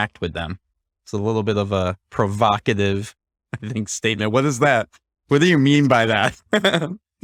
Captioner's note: laughs